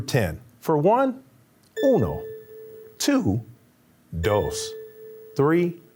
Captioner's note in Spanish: habla español